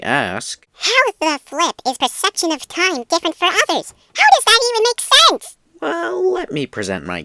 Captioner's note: annoying high-pitched voice